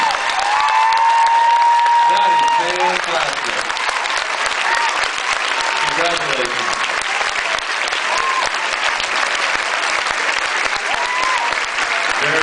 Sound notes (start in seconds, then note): 0.1 cheers, applauds; 3.1 cheers, applauds; 4.5 off mic; 5.2 cheers, applauds; 6.5 off mic; 7.6 applauds